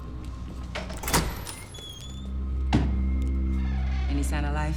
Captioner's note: door clangs, squeaks